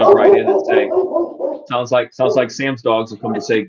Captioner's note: dog barking loudly